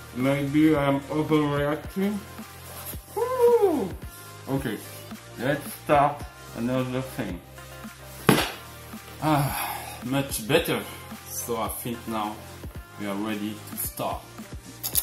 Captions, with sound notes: Maybe I am overreacting, whooo. Okay, let's try* another thing [hands clap]. [sighs] Much better! I think now we are ready to start.